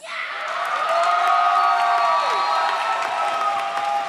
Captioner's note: audience cheers